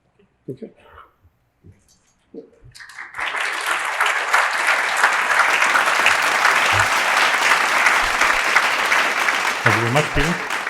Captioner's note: clapping